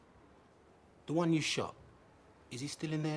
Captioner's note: none